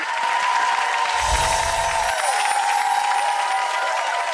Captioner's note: audience applause